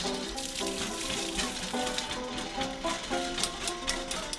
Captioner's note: water running